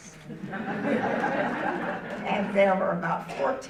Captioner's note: audience laughing